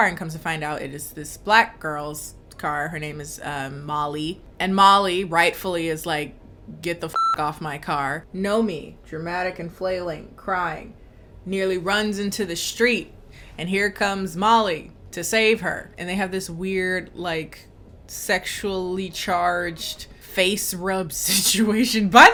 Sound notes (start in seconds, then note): 7.1 beep